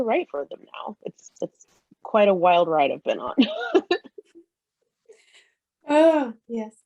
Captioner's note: laughs